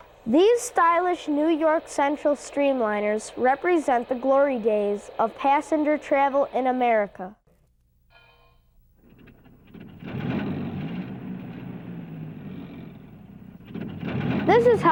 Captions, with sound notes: These stylish New York Central streamliners represent the glory days of passenger travel in America. (engine rumbling)